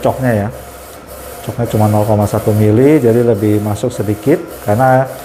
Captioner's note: printer machine noise